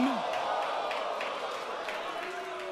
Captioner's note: cheers and boos